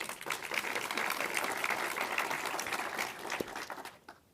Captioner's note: audience applauding